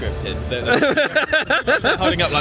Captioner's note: laughs